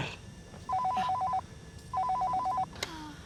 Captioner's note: phone rings